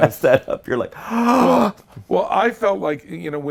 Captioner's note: gasps